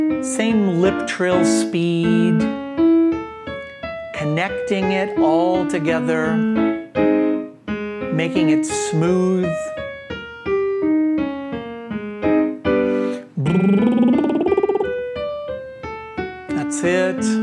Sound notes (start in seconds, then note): 9.7 soft music continues; 13.2 trilling